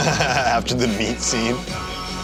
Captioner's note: laughs